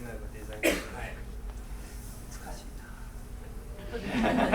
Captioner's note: speaking in foreign language; coughing; laughing